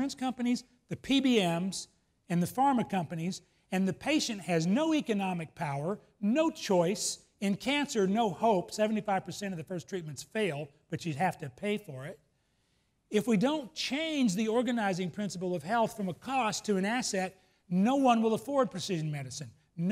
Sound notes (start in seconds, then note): none